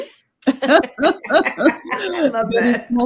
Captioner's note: both laughing